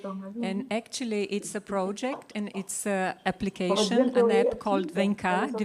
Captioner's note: speaks Language